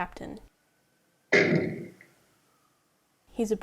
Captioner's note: doors slamming